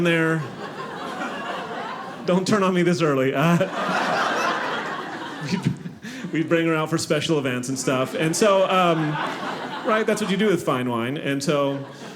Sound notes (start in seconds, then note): 0.2 audience laughing